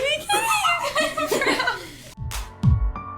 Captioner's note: both laugh; upbeat music